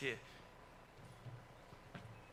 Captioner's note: speaks in foreign language